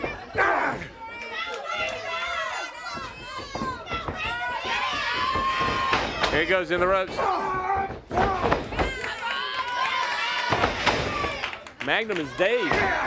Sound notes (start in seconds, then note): 2.8 crowd cheering